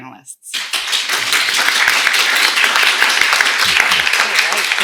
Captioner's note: audience applauding